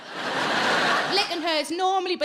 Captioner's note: audience laughing